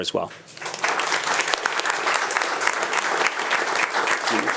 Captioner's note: attendees applauding